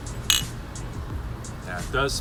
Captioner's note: glasses clink